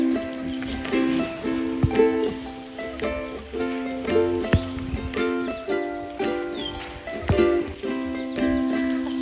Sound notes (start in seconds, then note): 0.0 leaves rustle; 0.6 coconut thumping; 6.3 laid back music